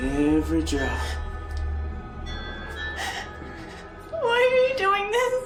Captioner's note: crying; licking